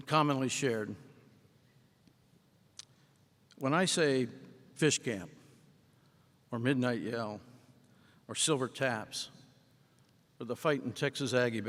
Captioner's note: silence